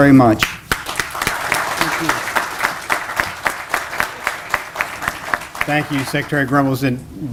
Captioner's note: applause